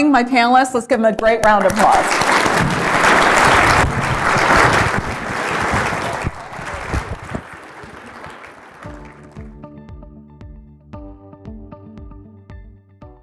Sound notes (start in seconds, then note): 2.6 applause